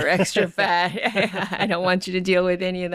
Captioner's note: laughing